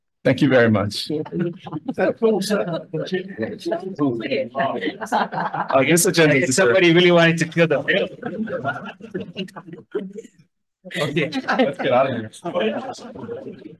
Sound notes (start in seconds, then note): 9.0 group laughing